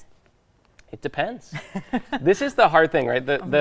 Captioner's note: laughing